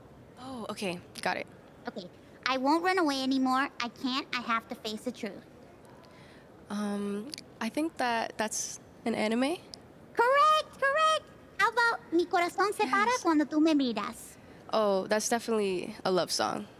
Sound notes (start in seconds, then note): 12.4 speaking in Spanish